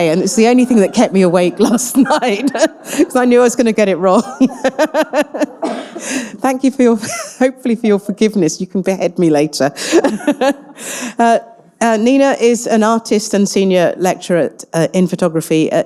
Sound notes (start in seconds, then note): 5.8 laughs; 10.0 chuckles